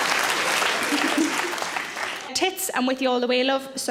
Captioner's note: Sarah chuckles